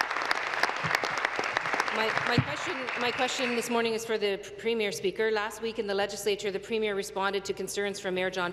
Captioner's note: applause